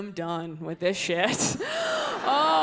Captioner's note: laughs